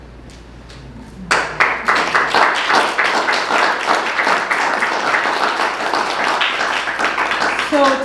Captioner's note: applause